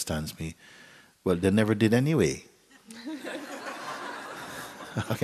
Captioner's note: laughter; Mooji chuckles